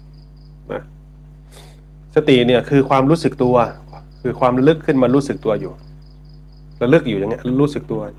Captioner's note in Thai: เสียงสูดหายใจ